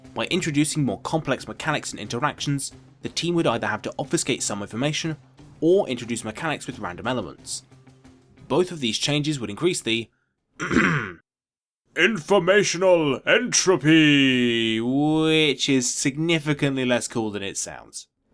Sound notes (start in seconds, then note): 10.6 ahem